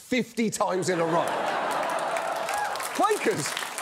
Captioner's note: laughter; crowd laughs, cheers